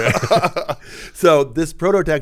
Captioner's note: both chuckle